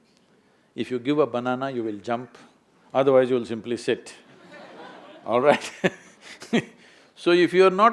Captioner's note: laughs